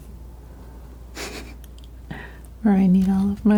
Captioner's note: laughs